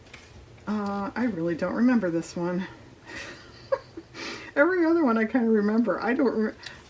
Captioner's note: laughs